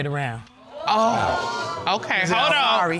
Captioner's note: audience exclaiming